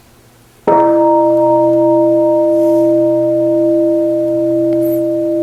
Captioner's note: bell